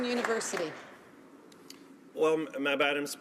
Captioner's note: applause